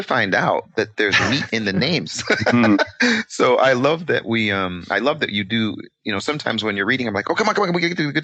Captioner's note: laughing